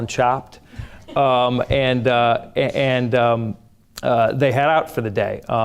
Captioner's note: audience chuckles